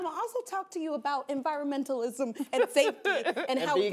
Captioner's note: laughing